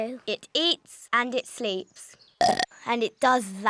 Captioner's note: burps